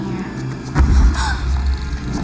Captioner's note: gasps